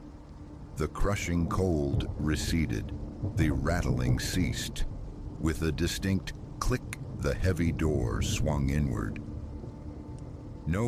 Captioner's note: click